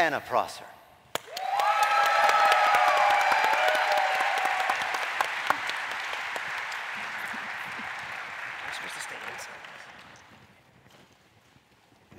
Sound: applause

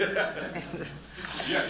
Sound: laughter

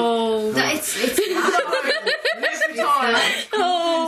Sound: laughing

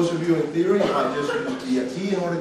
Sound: student coughing

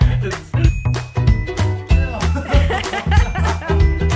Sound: laughing

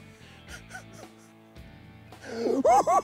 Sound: chuckles; cackles

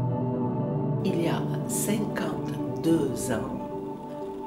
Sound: speaking French

